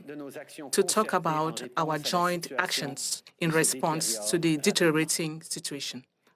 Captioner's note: speaking French